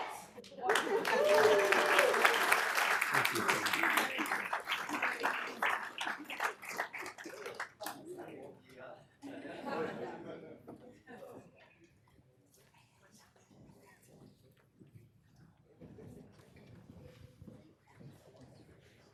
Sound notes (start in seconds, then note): 10.0 applause